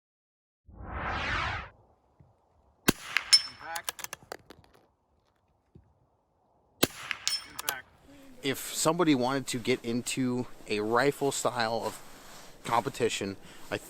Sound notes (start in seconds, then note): 0.7 loud whoosh; 2.8 rifle fires; 6.8 rifle fires